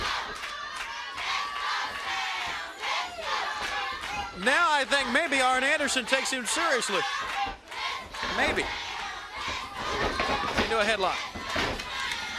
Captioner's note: crowd cheering